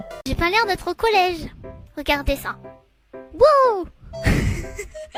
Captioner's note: high-pitched voice